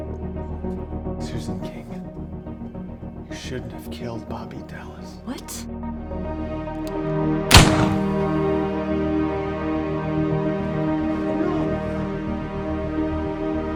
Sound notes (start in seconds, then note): 7.5 gun firing